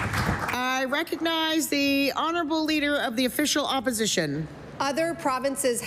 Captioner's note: applause